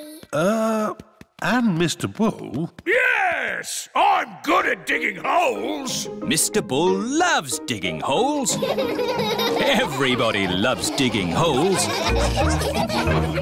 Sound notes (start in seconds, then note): 8.5 all laughing